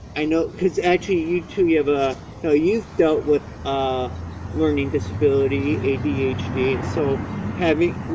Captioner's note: car drives; truck drives